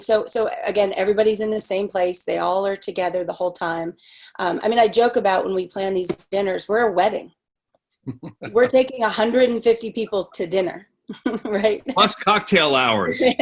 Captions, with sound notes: So again, everybody's in the same place. They all are together the whole time. I mean, I joke about when we plan these dinners we're a wedding. (laughing) We're taking 150 people to dinner, right? - Plus cocktail hours.